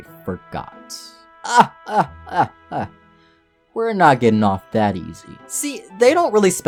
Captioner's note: laughs